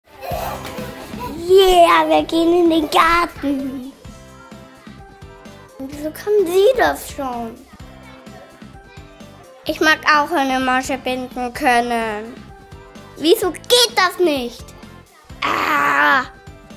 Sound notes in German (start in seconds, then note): 1.4 Bubenstimme